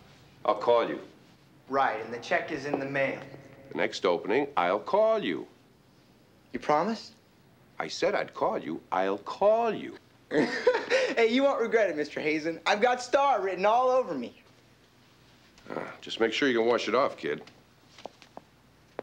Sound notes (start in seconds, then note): 10.3 laughing